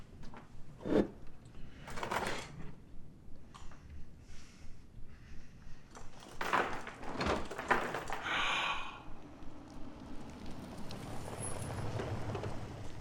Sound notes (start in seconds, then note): 8.2 gasping; 10.9 vehicle approaching